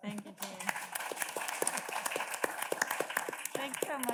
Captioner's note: audience claps